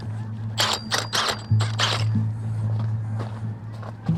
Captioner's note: auger whirring